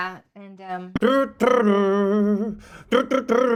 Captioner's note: mimics music